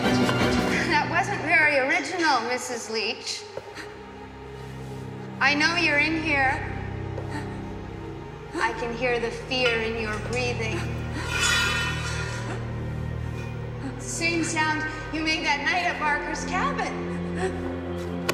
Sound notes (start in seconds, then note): 6.6 Freddie breathing heavy